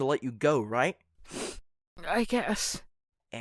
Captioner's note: sniffs